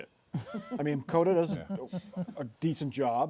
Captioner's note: laughter